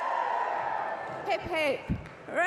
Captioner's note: applause